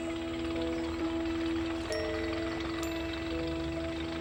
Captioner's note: birds chirping